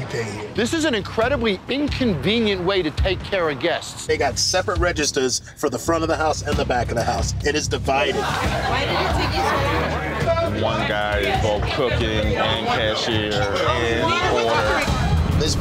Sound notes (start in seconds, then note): 9.3 customers chatting; 14.8 tense music